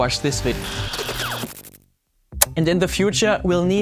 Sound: electricity crackling

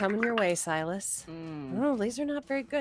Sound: dice clatter

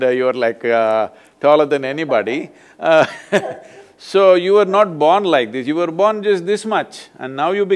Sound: both laugh

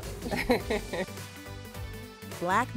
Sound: laughing

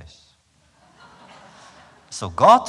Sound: laughter

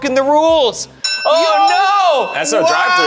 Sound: bell dings

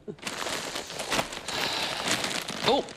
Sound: mr perkins sighs

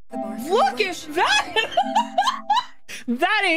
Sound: laughter

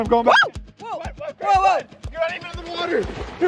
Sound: screams

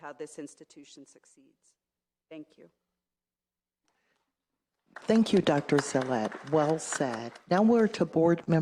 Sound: applause

